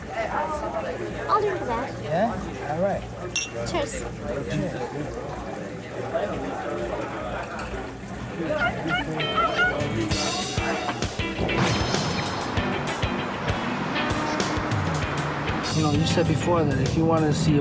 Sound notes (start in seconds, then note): 6.6 bar patrons chattering; 11.3 upbeat music